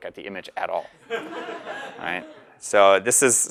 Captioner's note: laugh